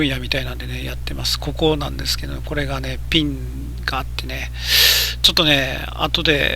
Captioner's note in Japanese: 息をのむ音